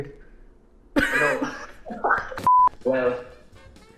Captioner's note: both laughing